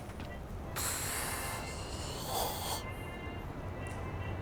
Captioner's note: woman sighing